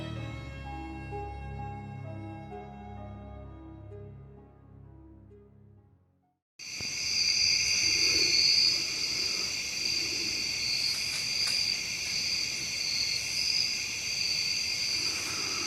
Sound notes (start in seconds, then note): 6.6 insects chittering; 7.5 breathing heavily; 10.8 branches snapping